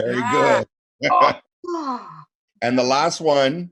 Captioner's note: laughing